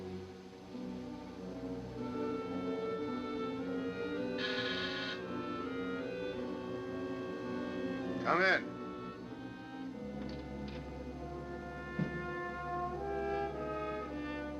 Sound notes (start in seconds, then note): 4.4 doorbell buzzing